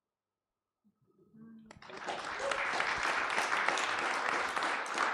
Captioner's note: applause